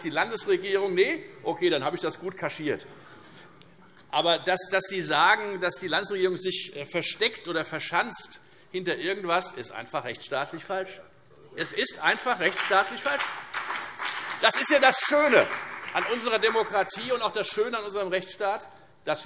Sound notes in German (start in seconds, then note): 12.1 Beifall Freie Demokraten, vereinzelt CDU, BÜNDNIS 90/DIE GRÜNEN und SPD